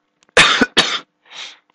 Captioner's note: coughing